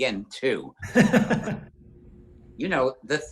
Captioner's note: John laughs